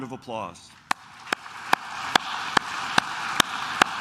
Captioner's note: claps